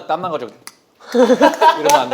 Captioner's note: click